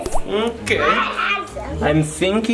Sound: laughs; radish plops

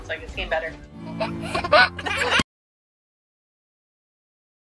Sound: toddler giggling

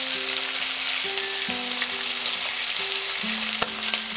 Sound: sizzle

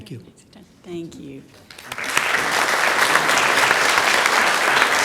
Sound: audience claps

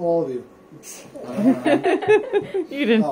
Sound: laughter

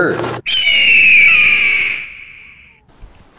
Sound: hawk call

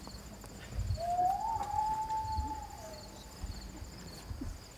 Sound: loon Call

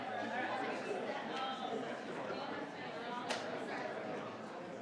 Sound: crowd chattering

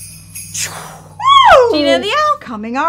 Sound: air whooshing

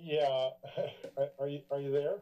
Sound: chuckles

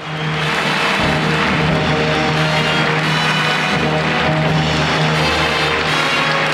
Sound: audience applause; grand orchestral music

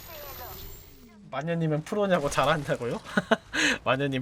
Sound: laughs

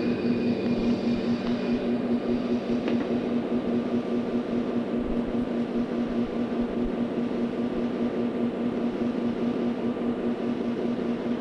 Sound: sound of the train idling

